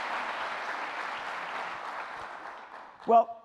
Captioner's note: applause